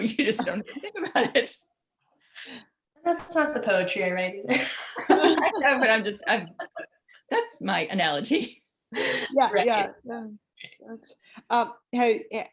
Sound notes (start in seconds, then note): 0.2 laughs; 4.5 laughter; 11.0 laughs